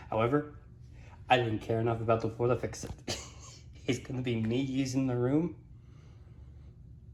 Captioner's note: chuckles